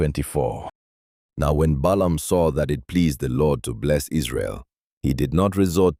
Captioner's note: thoughtful